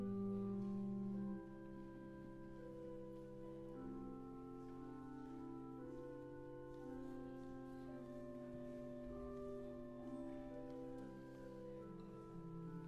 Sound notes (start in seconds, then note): none